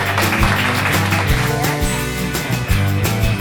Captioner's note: applause; upbeat music